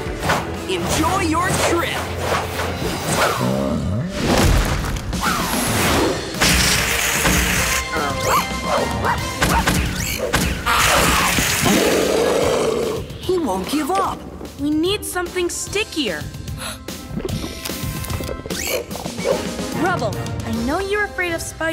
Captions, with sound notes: Enjoy your trip. [barking] [growling] He won't give up. We need something stickier. [gasping] Rubble, I know you're afraid of spiders,